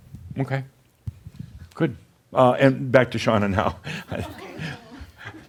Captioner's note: chuckles